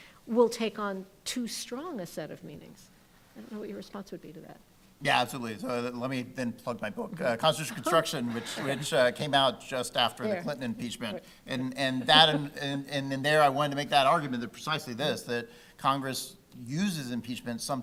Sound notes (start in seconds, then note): 7.6 laughs; 11.7 laughing